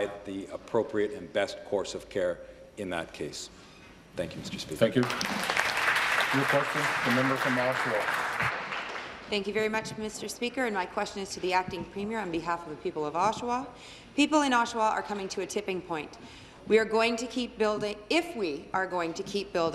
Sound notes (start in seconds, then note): 8.7 applause